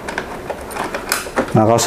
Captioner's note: installing damper sound